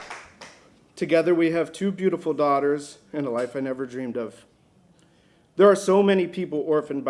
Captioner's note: applause